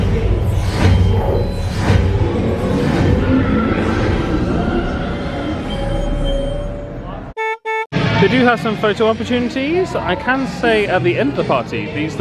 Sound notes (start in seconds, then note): 0.1 Lightcycles thrumming; 7.3 car horn honks